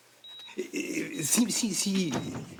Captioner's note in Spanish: Bip del monitor